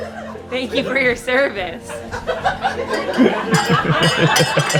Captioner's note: laughter